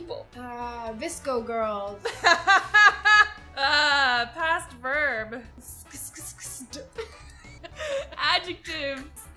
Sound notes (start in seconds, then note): 3.9 laughs; 6.5 both laugh